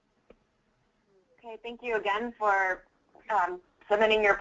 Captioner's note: voiceover